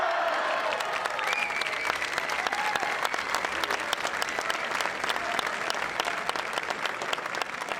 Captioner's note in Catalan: aplaudiments